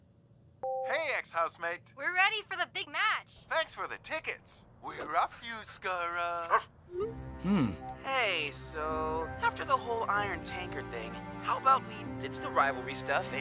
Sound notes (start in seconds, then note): 6.4 barks